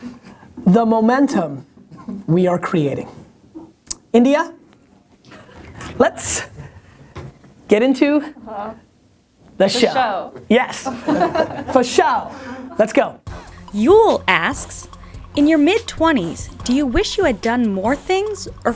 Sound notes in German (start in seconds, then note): 10.8 Lachen; 13.8 Voice-over